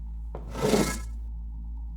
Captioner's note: door whooshes shut